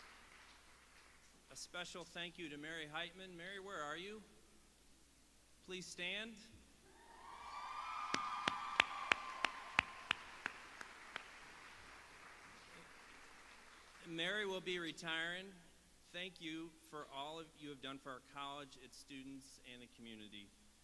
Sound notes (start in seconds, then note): 13.0 applause